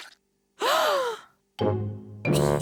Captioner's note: all gasp; giggles